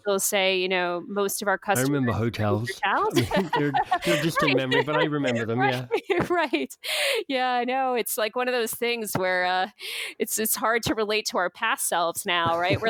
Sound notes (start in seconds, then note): 1.7 laughs